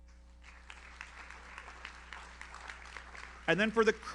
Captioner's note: audience applauds